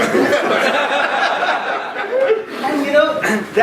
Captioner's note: laughing